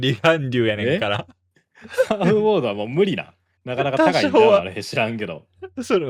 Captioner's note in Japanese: 笑い